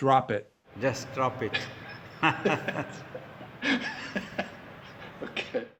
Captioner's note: both and the questioner chuckling